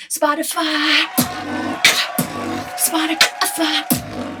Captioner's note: comic cheering